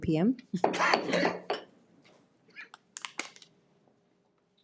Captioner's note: gavel bangs